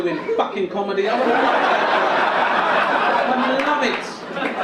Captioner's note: audience laugh